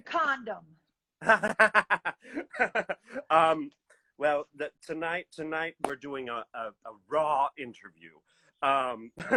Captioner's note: laughs